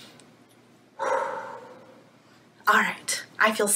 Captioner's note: inhales; exhales